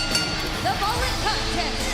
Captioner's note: bell ringing